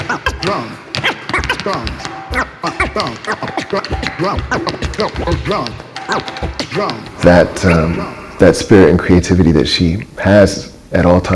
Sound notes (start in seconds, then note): 4.8 record scratching and tapping